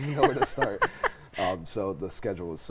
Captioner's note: laughs